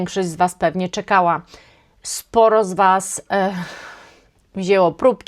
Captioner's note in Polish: westchnienie